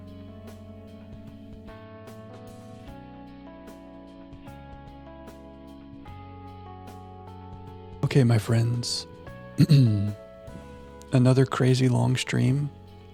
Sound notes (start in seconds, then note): 9.6 clears throat